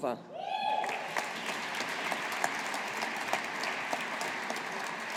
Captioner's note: audience applauding